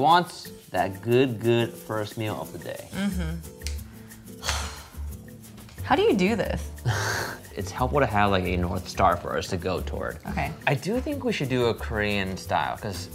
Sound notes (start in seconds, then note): 4.4 sighs; 6.8 laughs